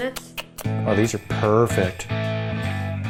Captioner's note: kissing sounds